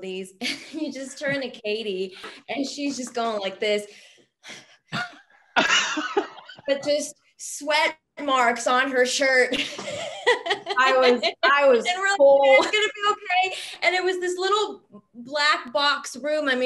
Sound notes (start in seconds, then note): 5.5 laughs; 9.5 laughs